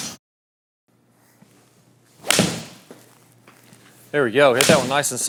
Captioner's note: golf ball flies; golf club swings